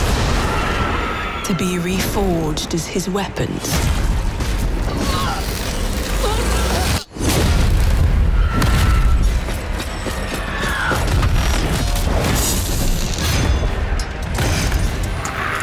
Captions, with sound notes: To be reforged as his weapons. [screams and grunts]